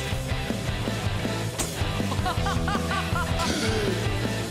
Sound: laughs; gasps

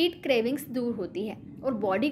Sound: hindi

